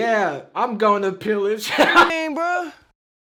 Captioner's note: chuckles